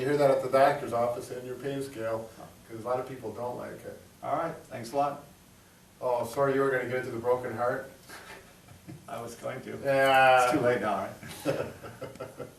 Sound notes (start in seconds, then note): 8.1 laughing; 11.2 laughs